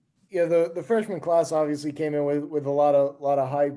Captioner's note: male Voice